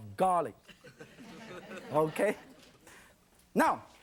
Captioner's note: audience laughing